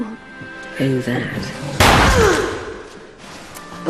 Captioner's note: bang